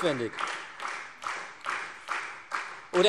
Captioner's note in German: Beifall Freie Demokraten und vereinzelt SPD